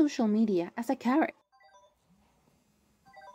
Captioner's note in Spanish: alarma